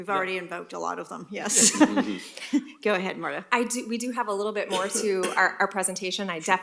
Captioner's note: laughter